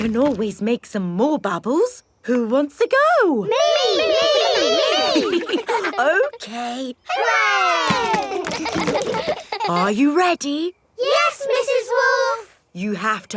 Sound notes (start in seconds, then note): 7.9 chuckles; 8.8 kids laughing